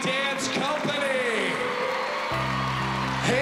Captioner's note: cheering and applause